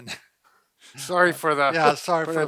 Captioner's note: laughs